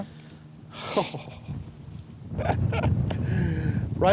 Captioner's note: chuckles